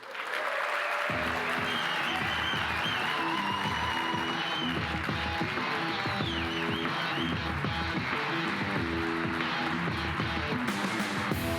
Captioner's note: applause